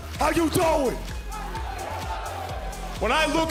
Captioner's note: crowd cheering